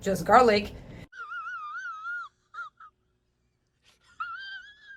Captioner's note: man chuckles